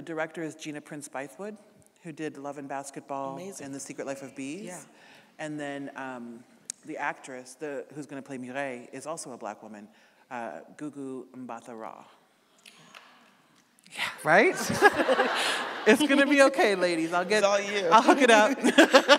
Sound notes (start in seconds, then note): 12.4 clapping; 14.5 audience laughing